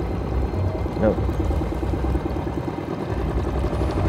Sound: boat engine purring

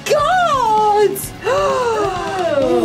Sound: gasps

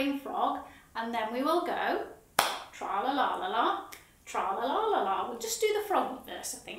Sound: claps

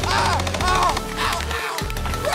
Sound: gunshot sounds

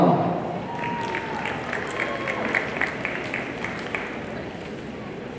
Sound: audience applauding

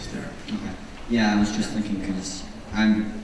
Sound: voiceover

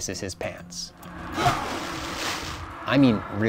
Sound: pained grunt and gushing splash

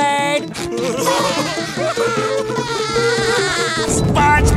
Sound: laughing

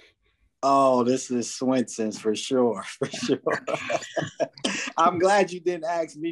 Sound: laughs

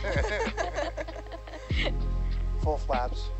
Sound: all laughing

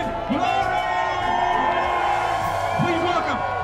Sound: crowd cheering

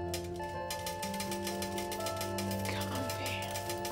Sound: phone chiming

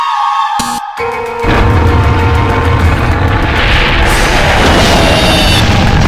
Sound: rocket Starts

